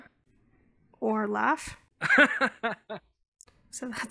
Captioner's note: automated voice